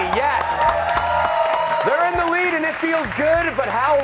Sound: applause

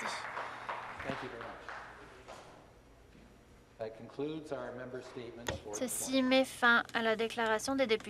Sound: applause

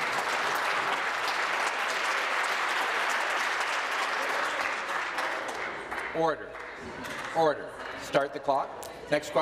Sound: some Applause

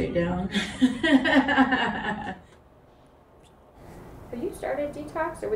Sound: laughing

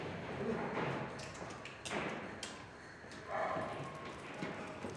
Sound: street sounds, doors closing

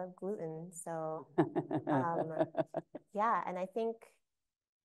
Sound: laughing

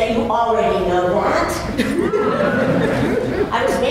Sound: laughter

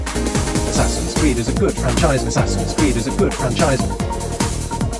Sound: automated Voice

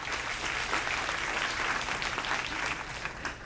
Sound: applause

